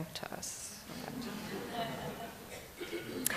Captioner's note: laughter